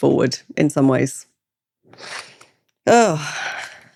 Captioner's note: sighs